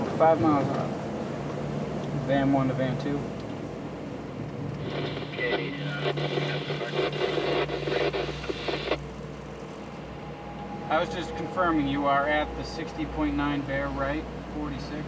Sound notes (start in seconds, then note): 4.8 static